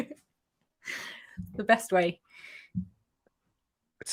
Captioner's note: laughter